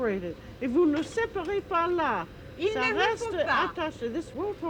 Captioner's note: conversing in french